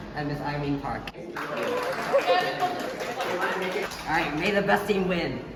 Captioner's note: clapping and cheering